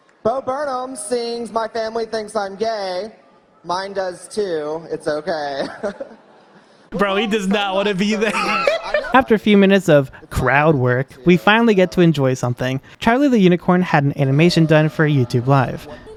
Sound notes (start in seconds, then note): 5.5 chuckles; 6.9 laughing